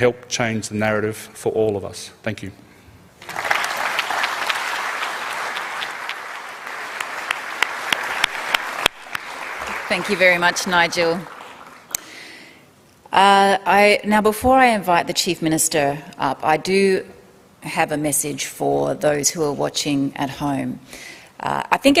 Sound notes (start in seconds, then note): 7.2 applause